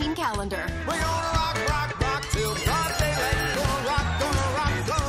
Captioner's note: bell rings